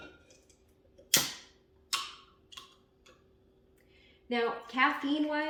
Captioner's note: can cracking